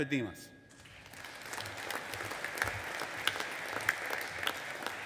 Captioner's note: audience applauding